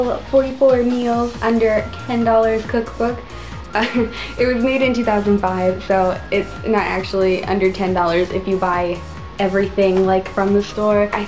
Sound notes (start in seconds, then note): 3.3 laugh